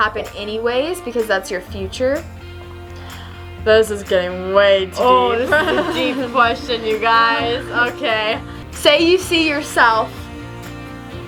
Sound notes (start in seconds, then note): 5.4 laughs